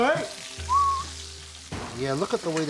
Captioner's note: whistles